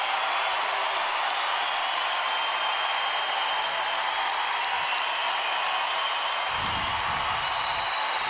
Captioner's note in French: acclamations